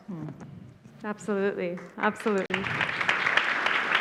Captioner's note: audience applauds